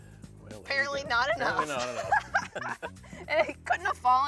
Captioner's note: laughs